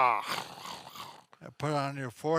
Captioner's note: growling sounds